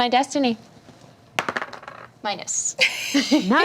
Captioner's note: die rolls